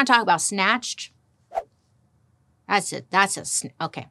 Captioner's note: air whooshing